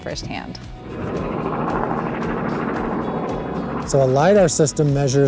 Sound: helicopter roaring

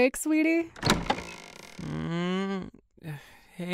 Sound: door opens; yawns

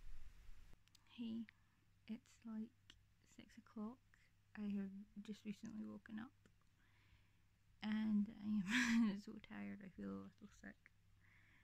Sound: laughs

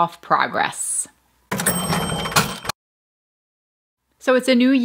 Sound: cash register dinging

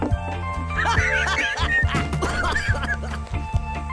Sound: happy laughter

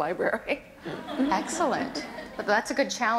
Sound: audience laughter

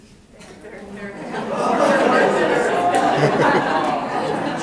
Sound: people laughing

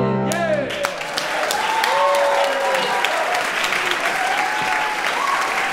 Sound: audience clapping and cheering

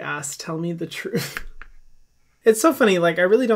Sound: laughing

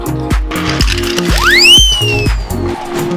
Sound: zinging

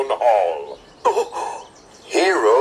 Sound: hiro gasps

